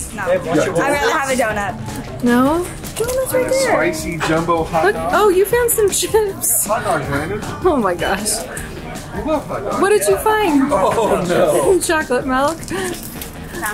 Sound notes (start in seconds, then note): 7.2 chuckles; 10.5 laughs